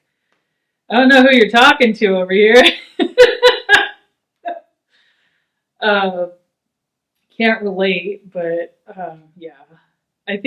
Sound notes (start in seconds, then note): 3.1 laughs